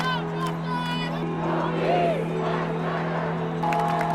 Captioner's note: protesters chanting; cheering